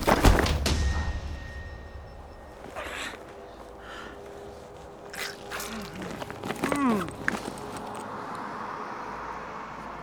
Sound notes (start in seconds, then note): 2.9 groaning in pain; 5.1 blood gushing; 7.8 car driving